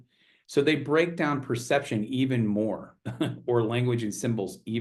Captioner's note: chuckles